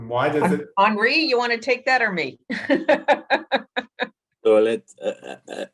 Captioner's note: laughs